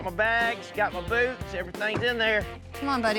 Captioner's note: truck door closes